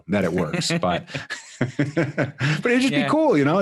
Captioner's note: laughing